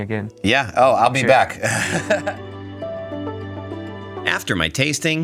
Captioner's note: laughing